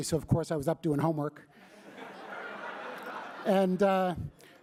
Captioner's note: laughter